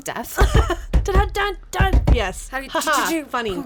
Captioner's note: table thumping